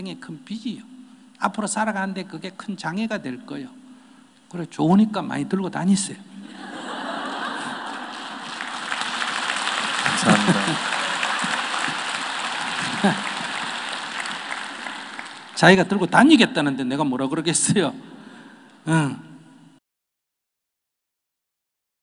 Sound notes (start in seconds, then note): 7.7 audience Laughter and Applause; 12.9 Sunim Laughter